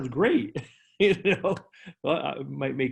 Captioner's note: laughing